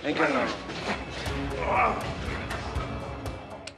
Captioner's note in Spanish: Quejido